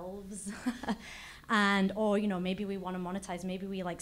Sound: laugh

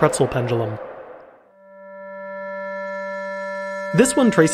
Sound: computer Generated Sound

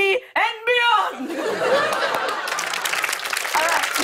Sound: laughter and applause

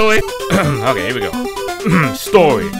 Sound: ahem

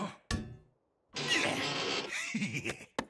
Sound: Bender grunts; Bender laughs

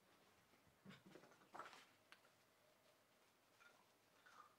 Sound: paper rustling

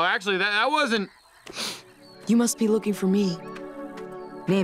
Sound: sniffing

